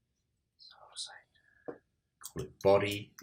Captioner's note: whispers